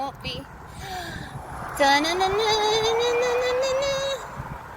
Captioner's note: gasps